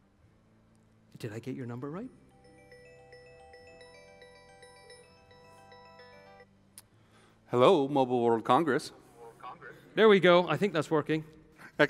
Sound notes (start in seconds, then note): 2.3 phone ringing